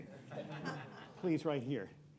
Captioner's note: laughter